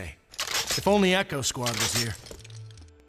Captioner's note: weapons clanging